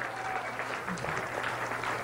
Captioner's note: applause